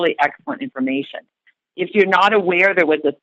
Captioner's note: none